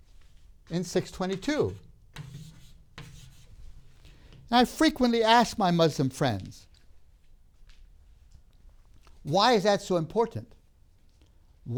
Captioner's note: chalk sounds